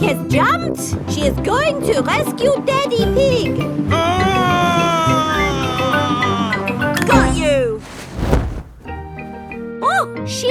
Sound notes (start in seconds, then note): 3.8 screaming